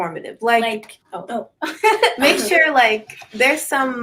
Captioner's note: all laugh